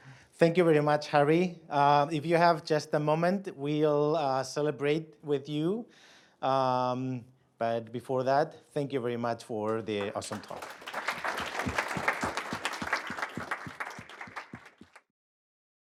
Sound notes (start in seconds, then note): 9.6 applause